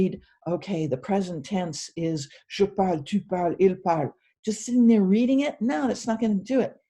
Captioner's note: french words